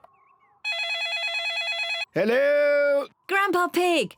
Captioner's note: beeping; phone rings